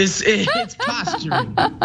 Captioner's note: laugh